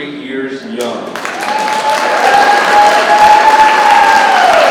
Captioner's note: people clapping and cheering